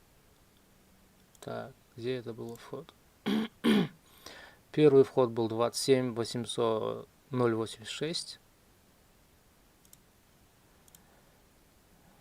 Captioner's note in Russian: откашливается